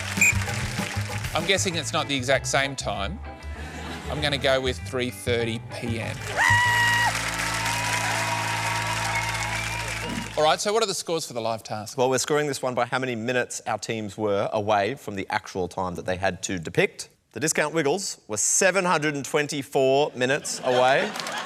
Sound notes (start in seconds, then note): 0.2 whistle blows; 6.0 applause